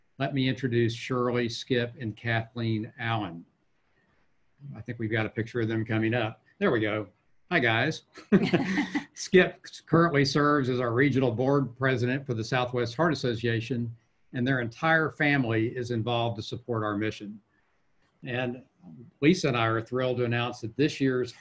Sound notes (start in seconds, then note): 8.2 laughs